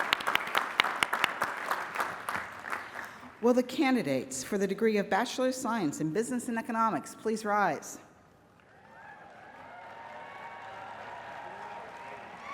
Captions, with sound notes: Will the candidates for the degree of Bachelor of Science in Business and Economics, please rise? [APPLAUSE AND CHEERING]